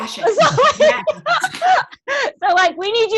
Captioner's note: laughs